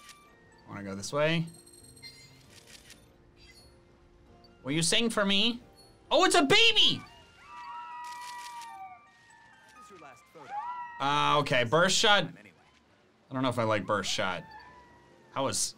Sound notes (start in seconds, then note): 2.4 photo snapping; 7.5 Lapras yelling